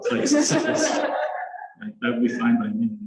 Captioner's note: laughter